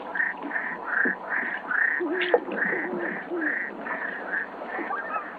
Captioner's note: animals calling